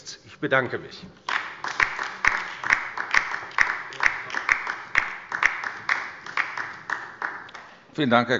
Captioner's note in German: Beifall bei der LINKEN